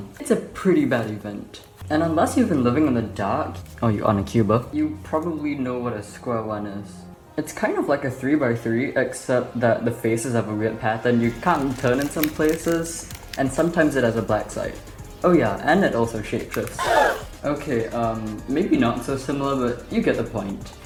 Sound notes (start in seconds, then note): 16.7 gasp!!!